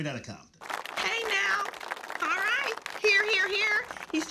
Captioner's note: audience applauds